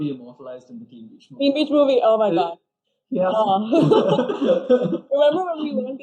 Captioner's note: both laugh